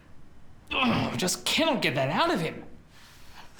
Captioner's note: groans